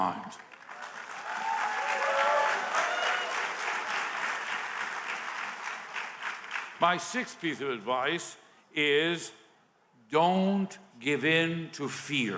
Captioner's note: applause